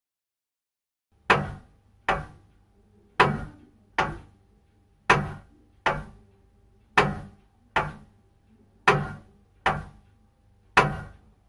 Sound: clock ticking sound

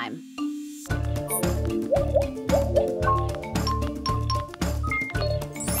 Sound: game beeping

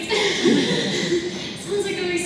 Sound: laughter

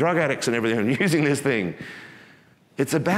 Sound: chuckles

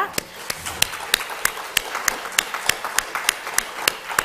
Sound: crowd applauding

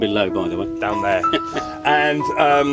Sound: chuckles

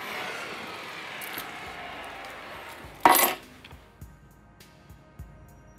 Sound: keys dropped onto table

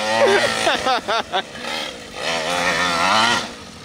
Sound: laugh

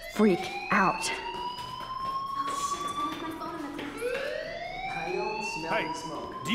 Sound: fire bell wailing

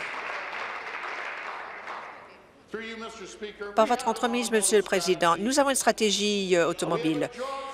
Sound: applause

